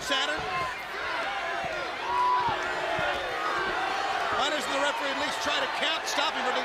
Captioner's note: crowd chatter